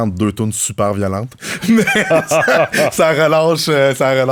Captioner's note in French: rires